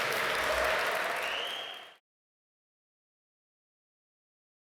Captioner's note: audience applaud